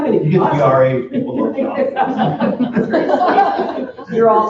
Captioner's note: attendees chatting